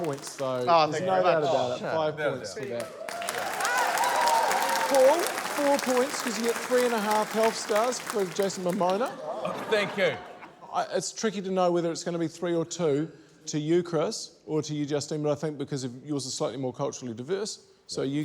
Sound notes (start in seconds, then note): 2.7 cheering, applause